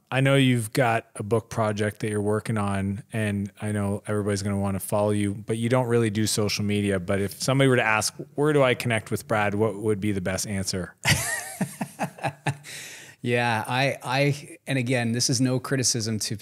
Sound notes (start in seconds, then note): 11.0 laughs